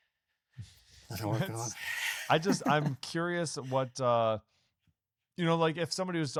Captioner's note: laughs